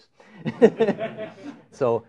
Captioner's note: laughter; laughs